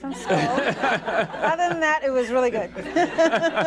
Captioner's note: laughter